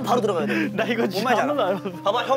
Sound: sobbing

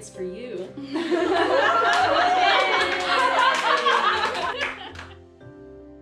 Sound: laughing and Cheering

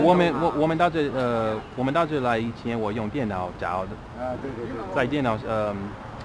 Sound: mandarin

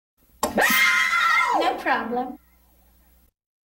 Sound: kids screaming

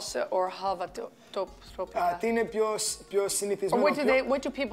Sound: speaking Greek

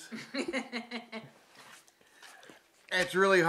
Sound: woman laughs

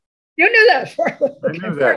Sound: laughs

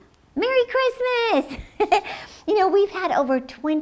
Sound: laughs

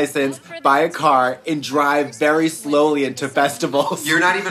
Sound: laughing

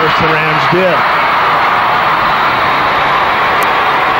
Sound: crowd cheers

